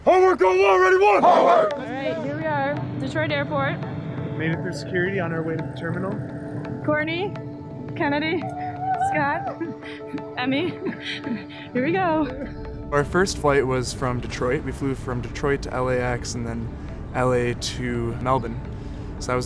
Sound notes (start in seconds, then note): 8.5 cheers; 10.2 laughs